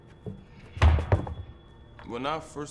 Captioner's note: tire thumps